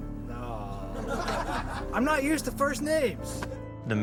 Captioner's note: laughter